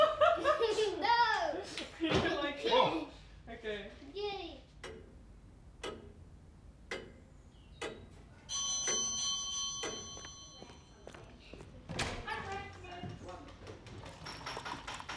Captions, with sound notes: No! Whoa! OK. Yay! [doorbell rings]